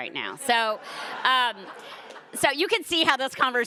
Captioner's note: audience laughing